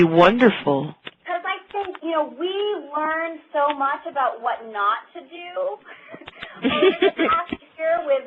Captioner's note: laughter